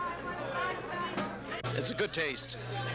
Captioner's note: crowd ambience